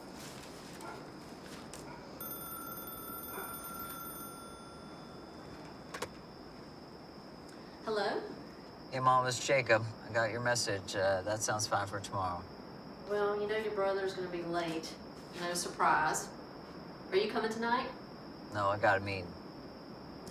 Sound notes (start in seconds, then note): 2.2 phone ringing